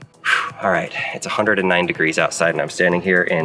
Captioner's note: exhaling deeply